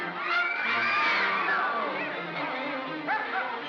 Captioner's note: ominous whimsical music; women scream; water splashes; ominous whimsical music